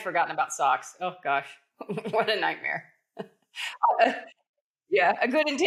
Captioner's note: laughs